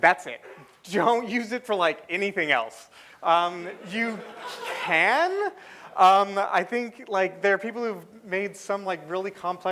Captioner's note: laughter